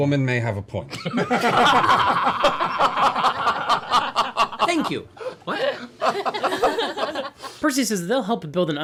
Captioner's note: laughter